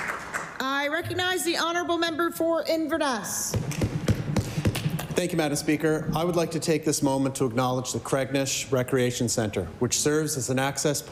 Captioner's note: applause